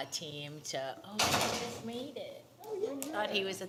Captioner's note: doors closing